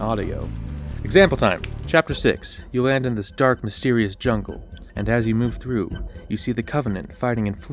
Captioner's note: snap